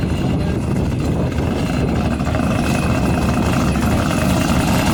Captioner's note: car engine rumbling